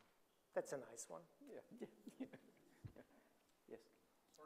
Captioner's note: chuckles